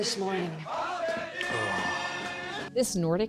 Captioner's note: laughing; sighs